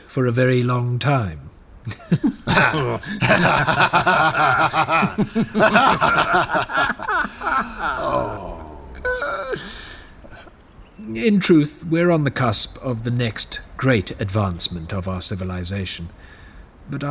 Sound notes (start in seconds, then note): 11.3 laughing awkwardly